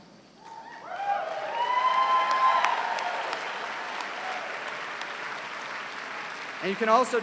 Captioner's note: cheers and applause